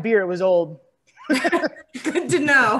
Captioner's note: laughing